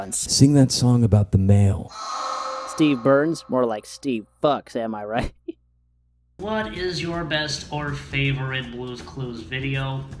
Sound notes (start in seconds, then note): 1.9 heavily reverbed orgasmic moan; 5.7 laughs